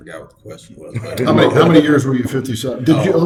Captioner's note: laughing